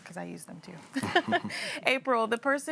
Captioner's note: laugh